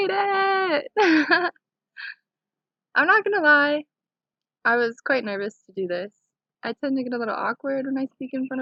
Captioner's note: laughing